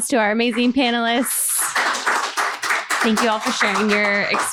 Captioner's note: applause